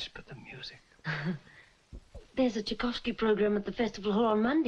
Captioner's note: chuckles